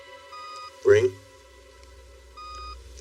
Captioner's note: machine beeps